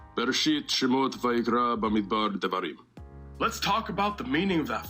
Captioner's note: foreign language